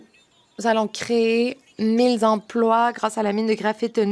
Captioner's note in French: voix de l'interprète